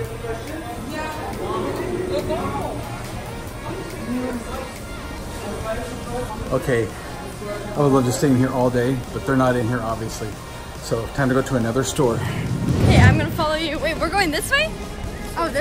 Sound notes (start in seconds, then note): 0.9 electronic music; 2.2 speaking faintly